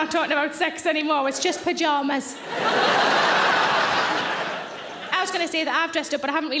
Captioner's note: audience laughing